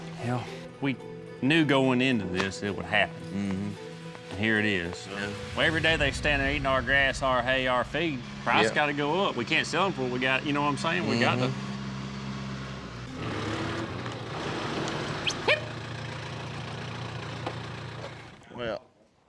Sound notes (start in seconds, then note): 11.2 tractor engine; 15.2 booger whistles; 16.7 tractor engine stops